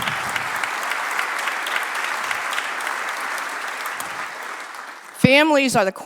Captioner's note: applause